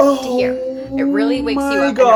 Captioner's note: mourning